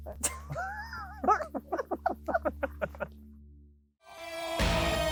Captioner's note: laugh; dramatic music